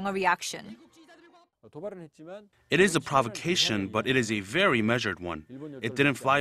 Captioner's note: Korean